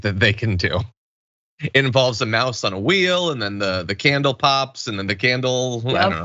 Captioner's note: laugh